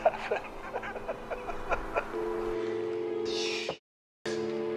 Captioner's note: killer laughing